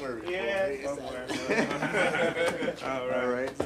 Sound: man laughs

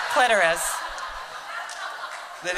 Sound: laughter

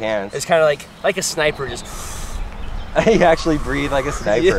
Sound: takes deep breath

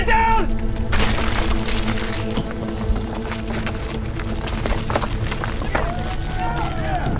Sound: loud rumbling; men shouting, rumbling continues

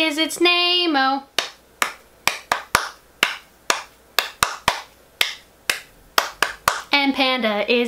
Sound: clap clap clap clap clap

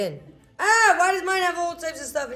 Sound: screams

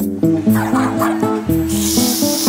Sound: dogs barking

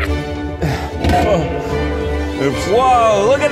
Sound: Zach laughs; Keith sighing; metallic banging

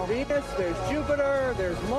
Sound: cheering

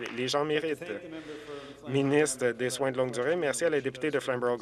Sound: some Applause

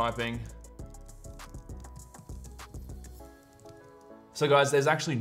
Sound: keyboard clacking

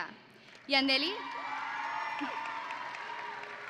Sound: graduates cheer; audience and graduates applauding

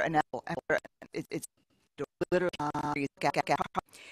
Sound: Static

